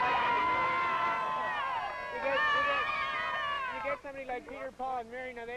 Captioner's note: crowd cheering